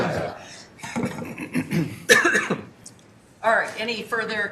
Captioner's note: laughter